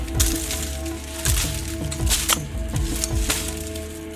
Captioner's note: machete cutting through brush